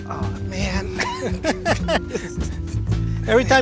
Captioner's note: laughing